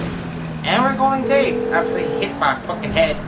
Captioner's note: phone rings